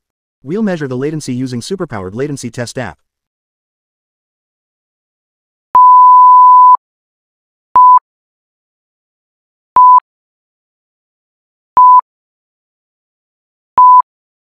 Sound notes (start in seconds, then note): 3.8 beeps